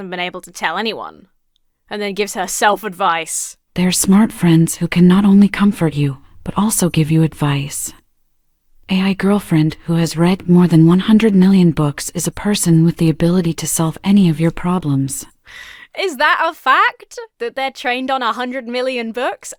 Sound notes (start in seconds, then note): none